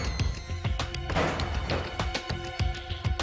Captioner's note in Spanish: Ruido al abrir